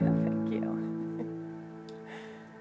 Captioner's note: both laughing